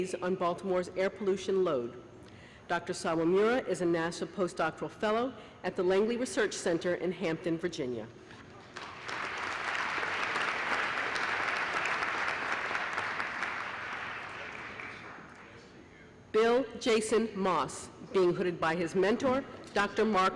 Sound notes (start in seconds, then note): 13.1 applause